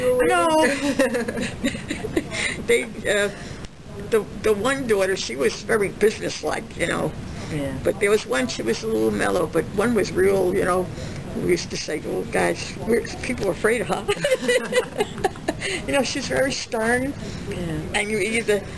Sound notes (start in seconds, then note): 0.6 laughs; 14.1 both laugh